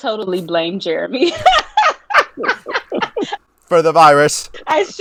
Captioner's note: laughing